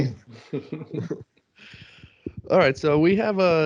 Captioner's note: laughter